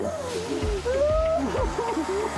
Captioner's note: weeps